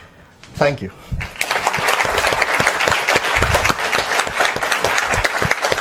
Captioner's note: applause